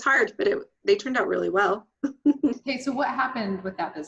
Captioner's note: laughs